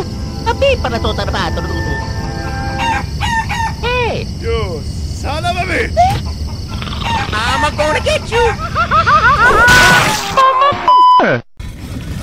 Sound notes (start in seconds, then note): 6.0 clucking; 8.5 Dovahkiin groaning; 9.1 yelling